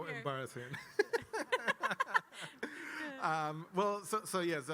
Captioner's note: laugh